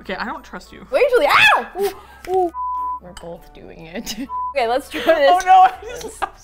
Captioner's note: laughs; shrieks; laughs mischievously